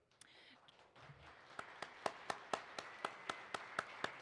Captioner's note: participants applaud